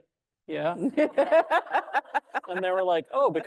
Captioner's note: audience laughing